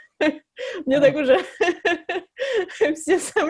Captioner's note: nervous laugh